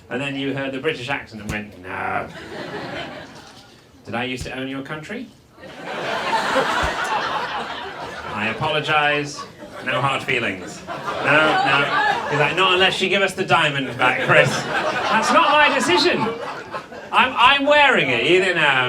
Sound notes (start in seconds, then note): 2.2 audience laughs; 5.7 audience laughs; 14.6 audience laughs